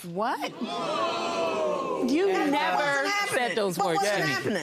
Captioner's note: audience gasps